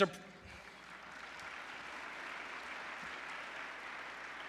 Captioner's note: applause